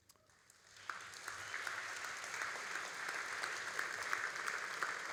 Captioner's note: all applauding